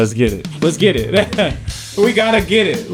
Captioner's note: laughs